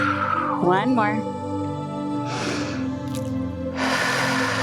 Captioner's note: inhales and exhales; inhales and exhales